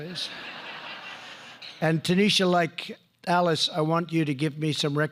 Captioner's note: laughter